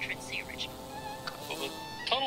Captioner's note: bee buzzing